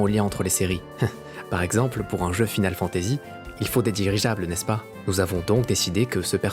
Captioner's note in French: rires